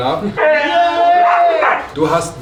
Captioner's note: dog and human yelling